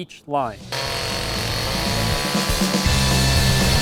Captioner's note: chainsaw running; heavy metal music playing